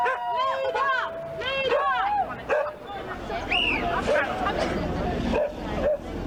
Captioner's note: crowd